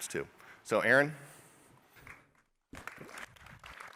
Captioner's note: applause